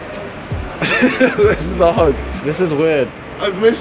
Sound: laughing

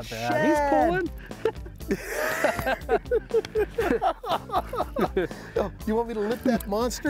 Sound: both laughing

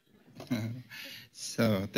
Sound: laughter

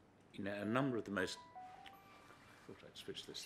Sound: phone rings

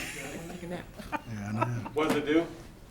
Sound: laughing

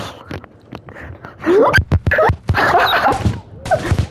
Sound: gasps

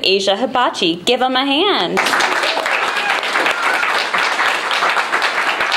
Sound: applause and cheering

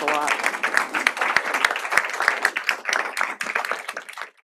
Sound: applause

